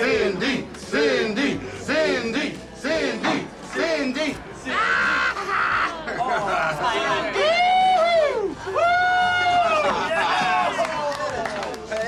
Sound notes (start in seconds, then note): 4.7 screams; 7.3 cheering